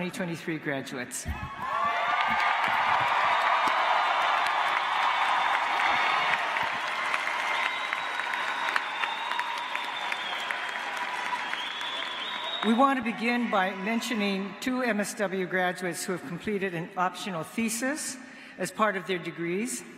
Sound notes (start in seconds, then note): 4.8 cheers and applause